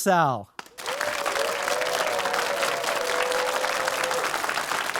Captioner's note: audience applauding